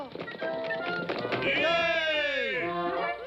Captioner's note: cheer